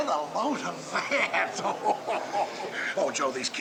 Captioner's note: laughs